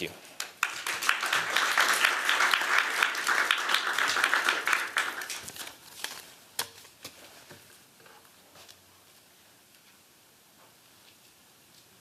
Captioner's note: applause